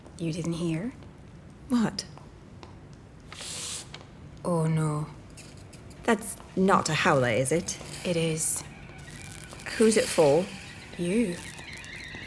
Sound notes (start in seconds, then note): 3.2 envelope slips under the door; 10.1 Howler starts steaming